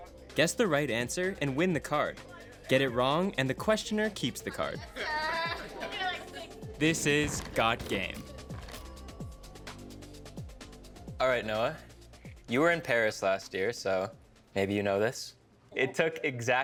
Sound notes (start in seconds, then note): 4.6 laughing